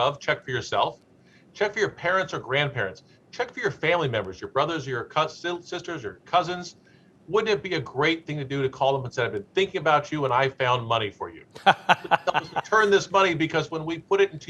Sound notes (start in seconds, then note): 11.5 laughs